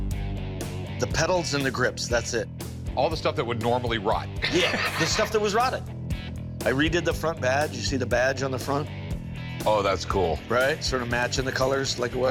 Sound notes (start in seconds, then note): 4.4 laughs